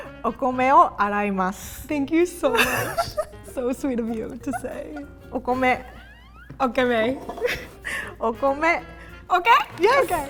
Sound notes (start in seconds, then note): 0.3 speaking in Japanese; 5.4 speaking in Japanese